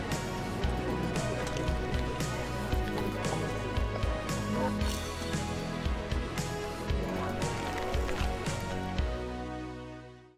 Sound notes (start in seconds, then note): 1.2 crowd talking